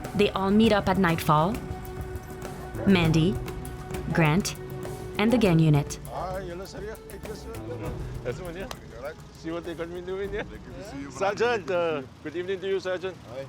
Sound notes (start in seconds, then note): 6.2 xhosa spoken audio